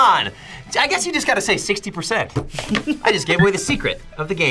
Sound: React laughs

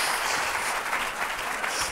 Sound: applause

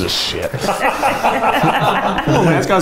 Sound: laughing

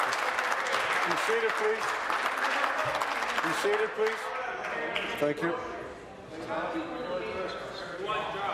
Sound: applause

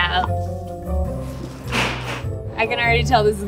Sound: lid thudding

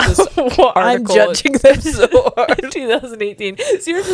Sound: laughs

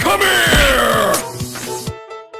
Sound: glass breaks off-screen

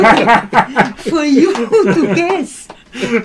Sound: laughs

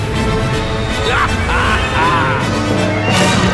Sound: laughing

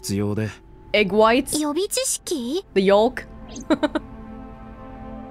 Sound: chuckles

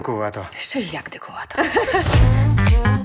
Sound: both laugh

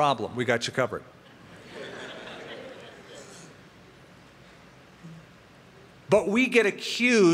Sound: laughter

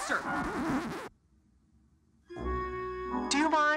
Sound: record scratches

